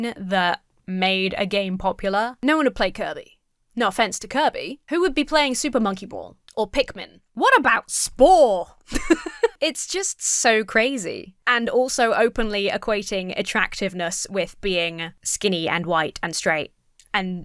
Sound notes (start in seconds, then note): 8.8 laughs